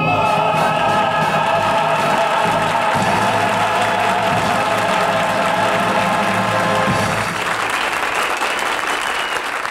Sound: audience applauding

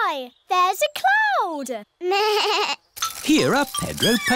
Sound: bleats

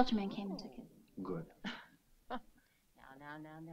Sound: Jewel chuckles

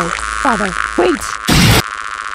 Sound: radio interference; crash; radio interference

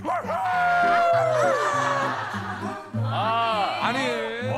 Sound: The 3 siblings of the Kim Family are roaring

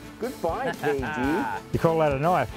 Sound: laughter

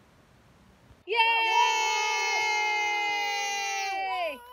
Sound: cheering

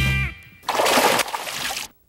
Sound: big splash

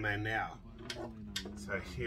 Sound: radio sound

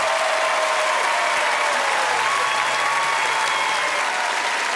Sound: cheers and applause

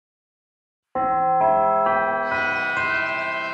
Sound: bell chimes

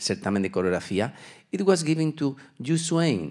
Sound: speaking Spanish

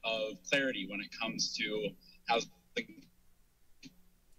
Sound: lost signal

